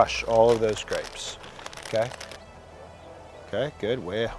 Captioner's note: bag crinkling